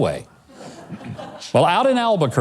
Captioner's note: laughs